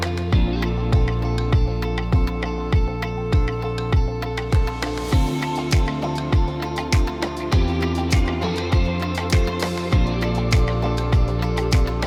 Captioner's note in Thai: ปรบมือ